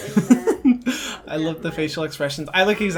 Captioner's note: laughing